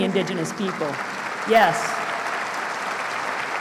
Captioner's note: applause